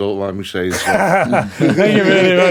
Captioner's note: laughing